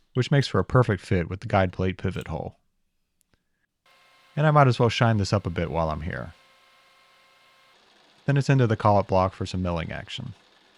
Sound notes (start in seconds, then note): 6.6 lathe whirring; 10.6 mill whirring